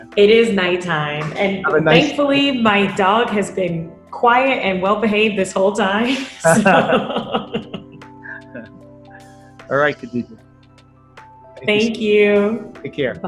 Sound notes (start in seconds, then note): 6.1 both laughing